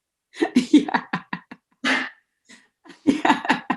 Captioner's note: laughs